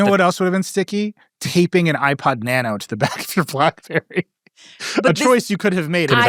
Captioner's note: laughs